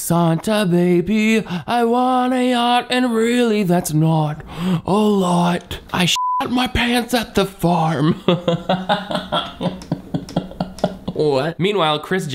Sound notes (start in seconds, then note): 6.1 beep; 8.0 laughs